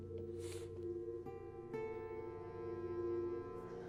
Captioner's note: sniffles